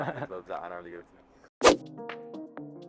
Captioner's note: laughs